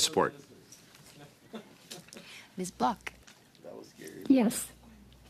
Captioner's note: laughter